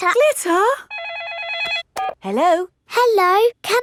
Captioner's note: phone rings